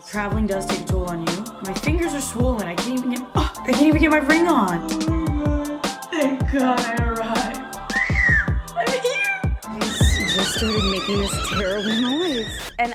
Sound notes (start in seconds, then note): 4.6 tired noises; 9.7 high-pitch squealing; 9.9 suitcase wheels squeaking